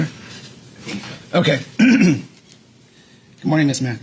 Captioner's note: clears throat